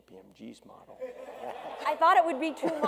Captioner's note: audience laughs